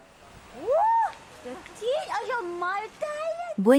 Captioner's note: xhosa spoken audio